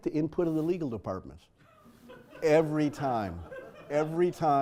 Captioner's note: laugh